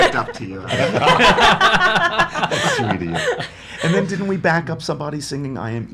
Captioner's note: laughs